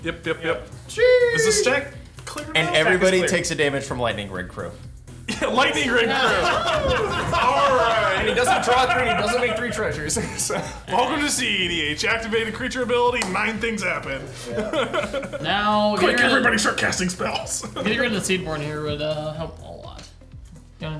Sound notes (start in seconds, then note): 5.3 chuckles; 6.6 players laughing; 15.0 laughs